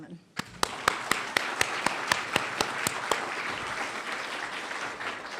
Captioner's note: applause